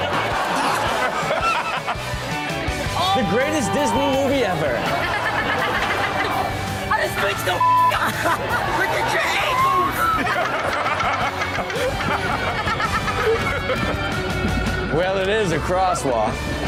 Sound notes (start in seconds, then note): 0.0 audience laughs; 4.7 audience laughs; 7.4 beep; 13.1 everyone laughs